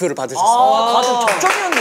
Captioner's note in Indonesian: Tepuk tangan